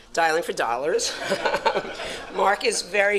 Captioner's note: audience laughs